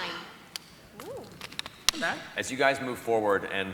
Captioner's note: none